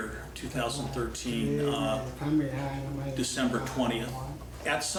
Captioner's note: translator speaking faintly